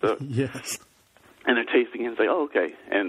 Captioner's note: laughs